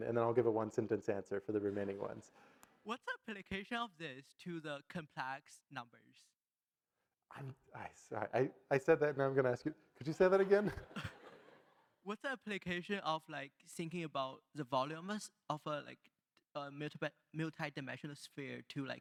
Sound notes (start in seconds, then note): 10.2 audience laugh